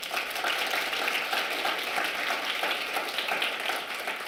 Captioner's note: audience clapping